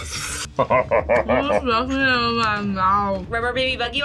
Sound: laughs

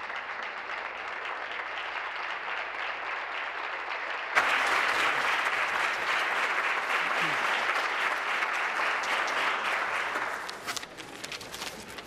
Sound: applause

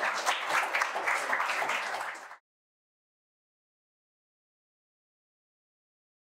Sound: audience applauding

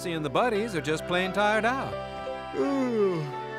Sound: yawning

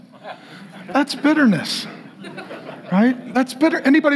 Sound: congregation laughing

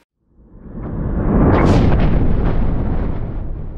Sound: rumble

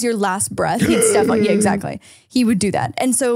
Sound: gasps

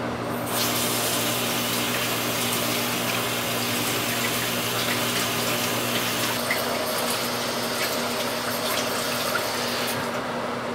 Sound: water running

